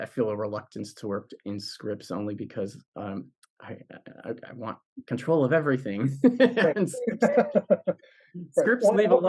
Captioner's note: laugh